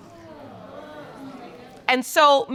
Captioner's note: audience exclaiming